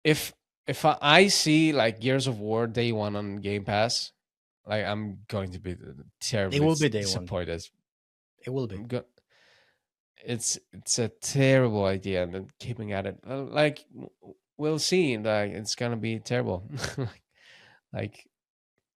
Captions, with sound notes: if, if I see, like, Gears of War Day one on Game Pass, -like, I'm going to be terribly- -It will be day one ... disappointed. -It will be. -Go- it's, it's a terrible idea, them keeping at it. Like, we'll see. Like, it's gonna be terrible. [laughs] Like,